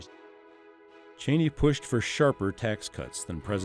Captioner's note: voiceover